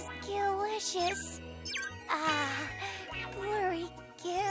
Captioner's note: sighs